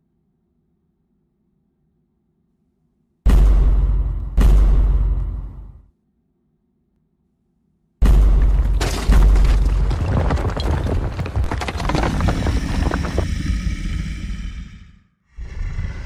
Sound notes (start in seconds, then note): 13.6 growl